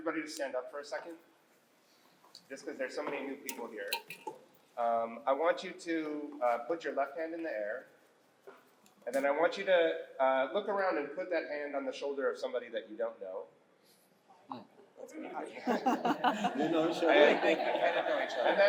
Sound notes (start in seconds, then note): 15.6 laughter